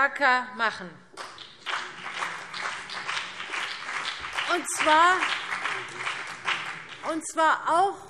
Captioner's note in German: Beifall CDU und BÜNDNIS 90/DIE GRÜNEN